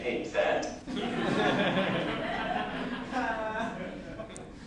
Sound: laughter

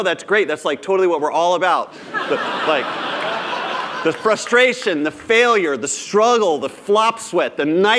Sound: laughter

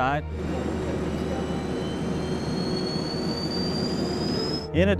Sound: sound Effects

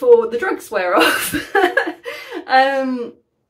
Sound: laughing

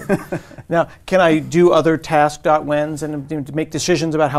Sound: laugh

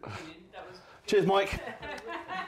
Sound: laughter

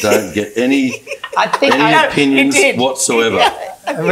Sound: laughs

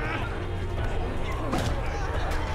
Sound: groaning

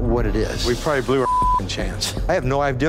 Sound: beep

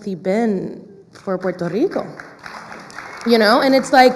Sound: clapping

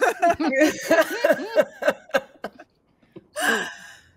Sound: group laughs

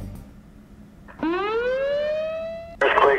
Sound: EAS Siren

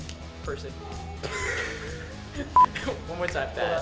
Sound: laughs

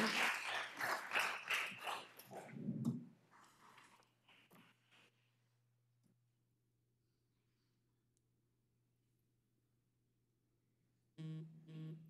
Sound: applause

